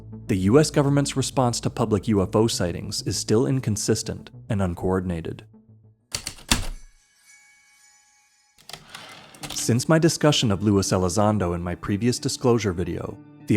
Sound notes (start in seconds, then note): 6.1 heavy typewriter keystrokes, light chimes, typewriter return slide